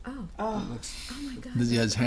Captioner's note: voiceover